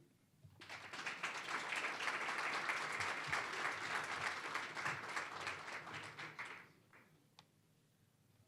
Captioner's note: applause